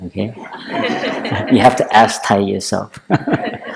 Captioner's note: laughter